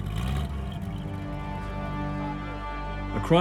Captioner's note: engine rumbling